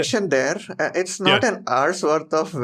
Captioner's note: laughs